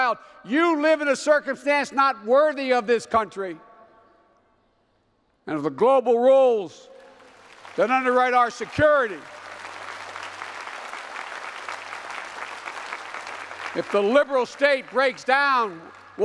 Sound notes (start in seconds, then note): 9.3 applause